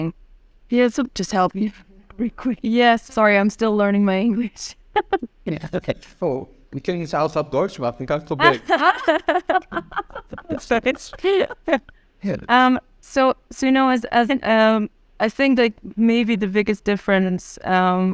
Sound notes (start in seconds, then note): 6.7 speaking in German; 8.4 laughing